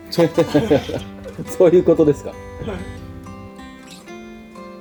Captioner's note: laughs